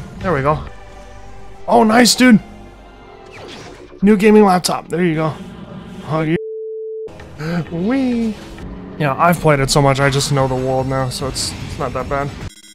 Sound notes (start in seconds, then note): 6.3 dead tone